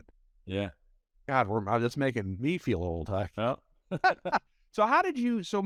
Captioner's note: laughs